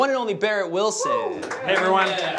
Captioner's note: applause